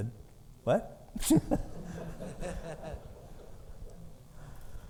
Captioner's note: audience laughing